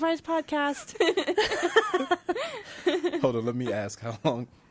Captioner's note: laughing